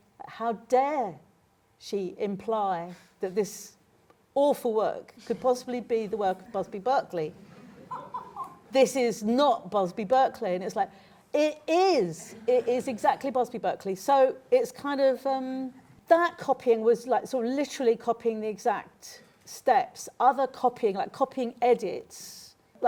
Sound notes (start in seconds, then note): 7.4 laughter